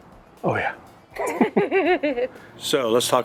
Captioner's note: laughing